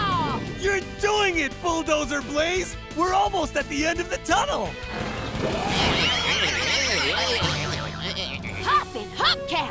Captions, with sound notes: You're doing it, Bulldozer Blaze! We're almost at the end of the tunnel! [bleating] Hoppin' hubcaps!